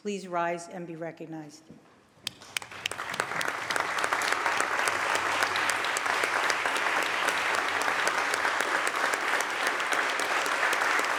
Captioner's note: applause